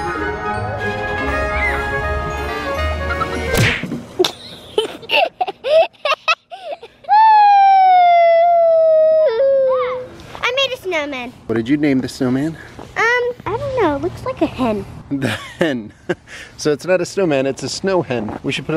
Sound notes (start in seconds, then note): 4.2 child laughs; 7.1 child howls; 15.9 laughs